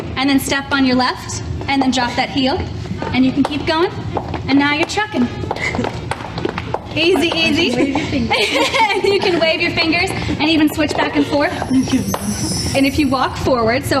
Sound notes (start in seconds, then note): 5.4 shoes tapping; 7.5 laughs